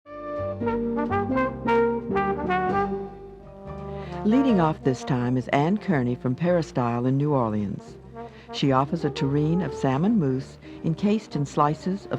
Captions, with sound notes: - [Voiceover] Leading off this time is Anne Kearney from Peristyle in New Orleans. She offers a terrine of salmon mousse, encased in slices of smoked salmon.